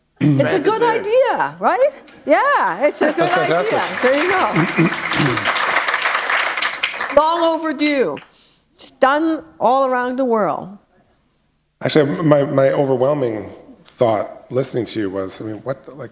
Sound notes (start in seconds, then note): 6.3 applause